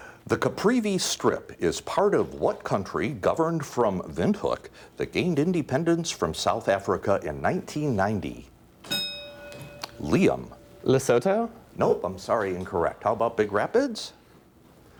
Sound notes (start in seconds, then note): 8.8 ding